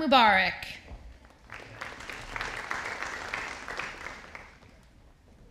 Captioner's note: audience applauding